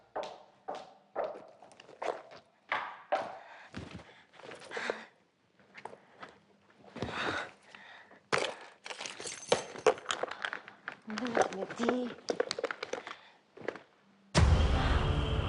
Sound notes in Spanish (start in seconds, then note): 10.0 Ruidos al andar en el bolso